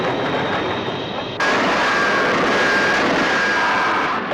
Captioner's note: zooming